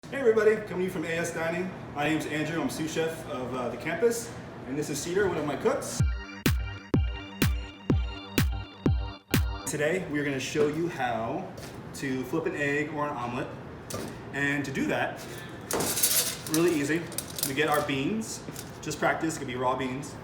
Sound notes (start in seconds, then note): 5.9 upbeat electronic music; 15.8 beans rattle against metal